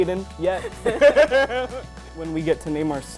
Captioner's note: laughs